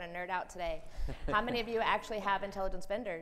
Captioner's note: laughs